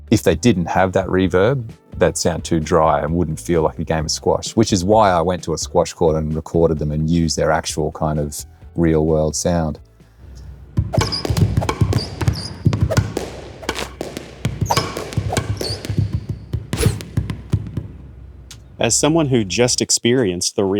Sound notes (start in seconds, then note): 10.6 ball reverberating